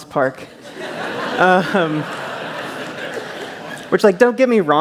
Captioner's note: laughter